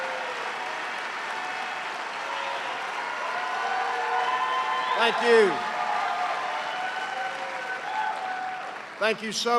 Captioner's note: cheers and applause